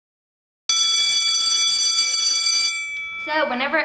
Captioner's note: bell ringing